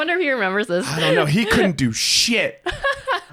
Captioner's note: laughs; both laughing